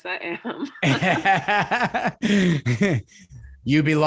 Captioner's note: laughing